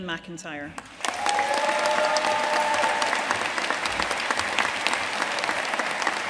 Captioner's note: audience cheering and applauding